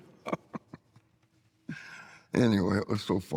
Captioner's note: laughing